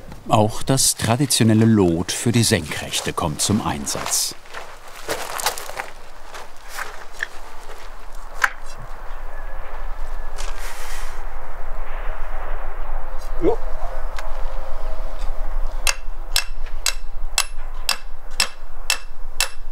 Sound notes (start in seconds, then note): 15.2 bright metallic hits